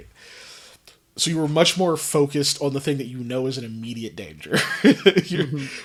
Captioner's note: laughs